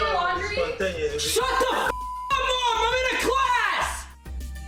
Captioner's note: beeping